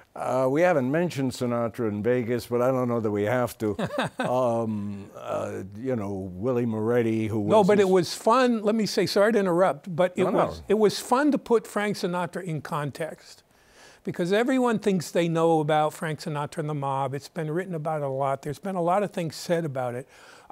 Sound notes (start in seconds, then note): 3.7 laughs